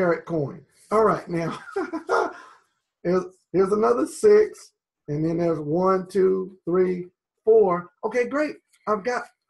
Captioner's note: laughs